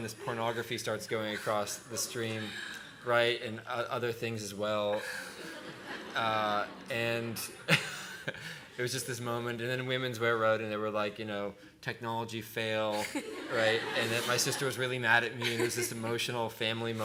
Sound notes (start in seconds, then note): 5.0 laughter; 7.1 laughing; 12.9 laughter